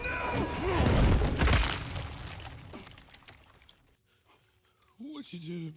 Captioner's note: body thudding and smashing